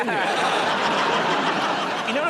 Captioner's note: laughter